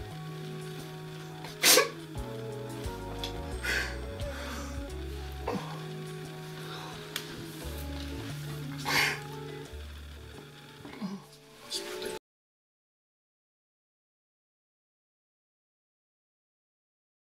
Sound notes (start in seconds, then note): 8.8 dad cries